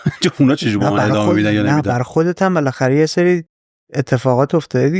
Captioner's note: laughs